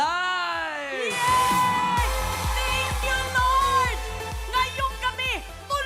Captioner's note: cheering